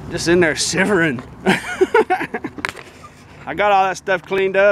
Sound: laughing

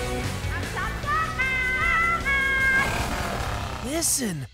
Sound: penguin squawking

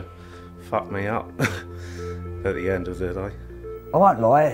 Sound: laughs

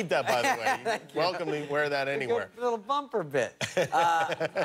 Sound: laughter

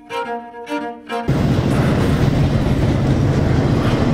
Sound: train passing

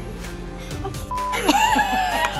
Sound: beep; laughs

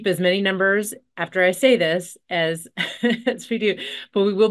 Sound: chuckles

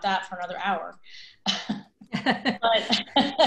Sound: laughter

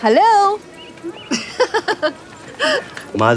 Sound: laughs

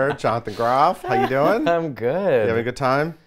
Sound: laughs

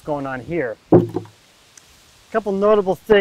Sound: water container thuds

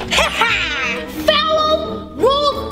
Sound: laughing

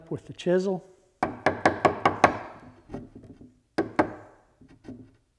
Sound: hammer hitting

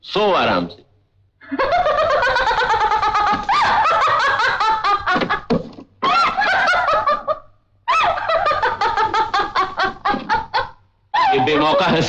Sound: laughs

